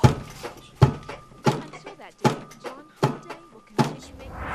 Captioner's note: head banging on table